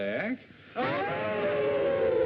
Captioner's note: howl